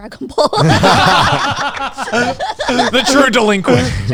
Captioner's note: everyone laughing